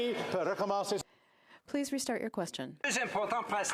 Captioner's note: speaking French